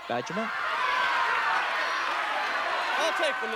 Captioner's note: chatter